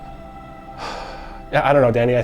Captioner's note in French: soupirs